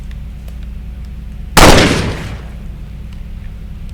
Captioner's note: gunshot